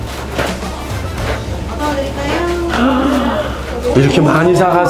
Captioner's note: busy store interior